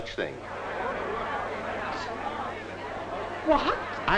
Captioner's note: group chattering